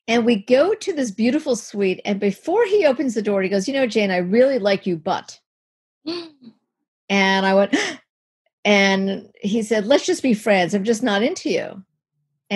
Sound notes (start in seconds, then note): 6.2 gasps